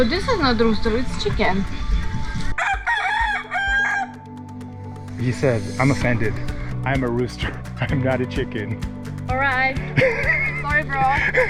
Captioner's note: rooster crows angrily